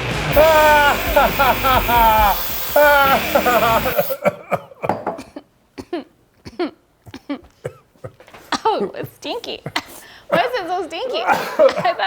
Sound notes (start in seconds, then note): 0.1 spray can hissing; 0.2 laughing louder; 3.0 both coughing; 11.2 coughing